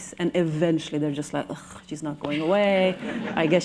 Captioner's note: laughter